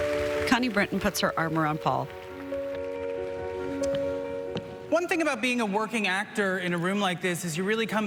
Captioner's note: applause